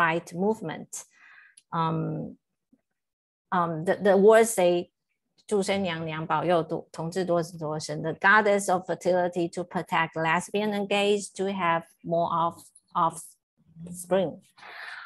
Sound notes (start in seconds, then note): 5.6 speaking in Mandarin